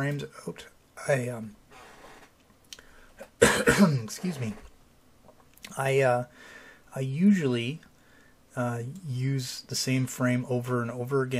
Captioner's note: coughs